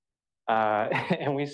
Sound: laughs

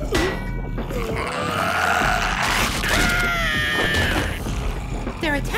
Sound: growling; screaming

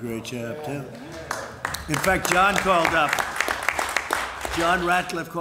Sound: applause

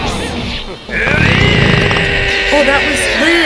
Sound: SFX: stock fart #4, WRYYYY

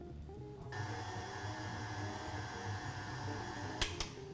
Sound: mixer whirring

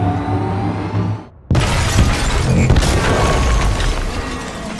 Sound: loud crash

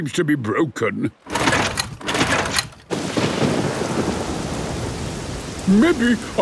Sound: engine struggling

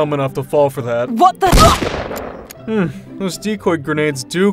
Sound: grunts

